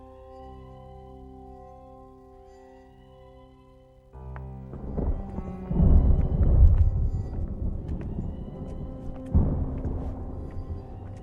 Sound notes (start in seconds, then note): 4.5 thunder booms, eerie music